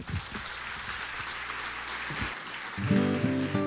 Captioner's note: applause